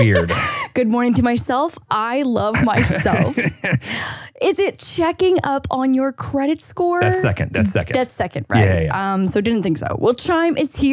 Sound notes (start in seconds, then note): 2.5 laughs